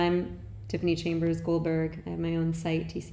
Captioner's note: none